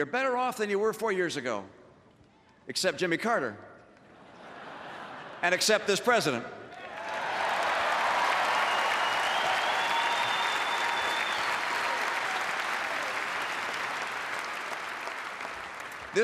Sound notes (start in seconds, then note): 4.1 laughter; 11.2 applause